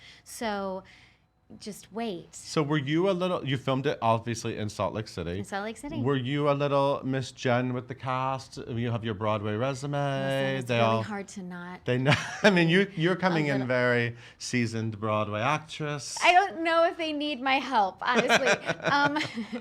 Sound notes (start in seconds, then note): 12.1 laughing